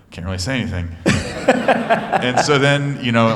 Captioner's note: laughter